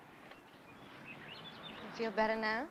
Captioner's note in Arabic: تغريد الطيور